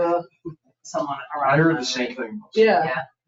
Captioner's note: people chattering